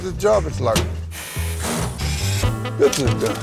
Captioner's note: tools whirring